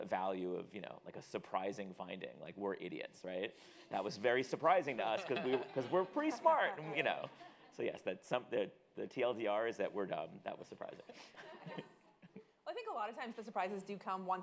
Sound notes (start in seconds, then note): 11.1 audience laughing